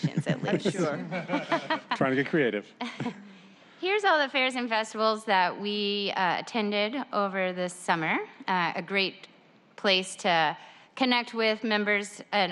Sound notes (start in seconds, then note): 2.2 laughter